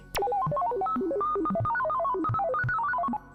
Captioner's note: electro beeps